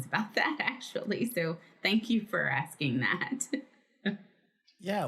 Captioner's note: laughs